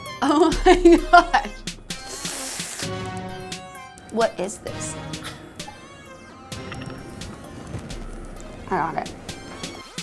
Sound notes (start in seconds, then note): 1.9 sucking